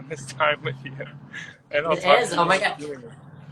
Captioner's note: laughs